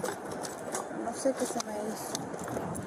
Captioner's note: speak in Foreign language